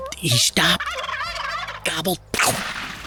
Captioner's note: tukreys gobbling; gunshot